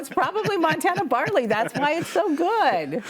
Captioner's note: laughs; laughing